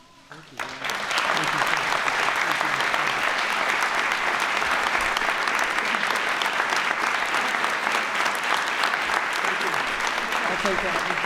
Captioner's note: applause